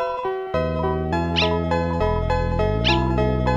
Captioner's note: bark; bark!